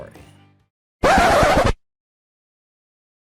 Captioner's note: record Scratch